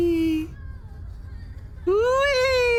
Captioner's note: pained sobs